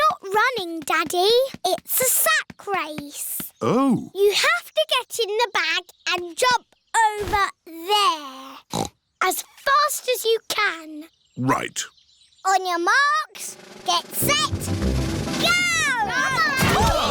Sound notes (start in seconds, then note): 8.6 snorts